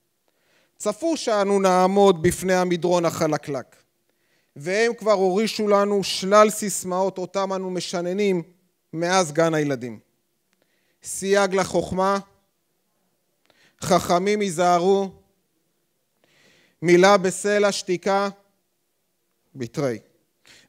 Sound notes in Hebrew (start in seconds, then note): 12.7 שתיקה